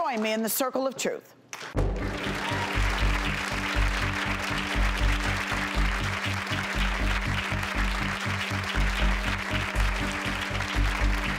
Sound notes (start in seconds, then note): 1.5 applause